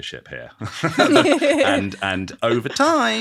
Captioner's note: all laughing